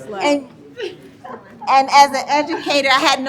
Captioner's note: laughing